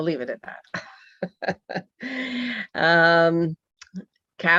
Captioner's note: laughing